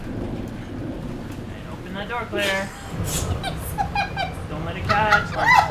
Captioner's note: laughs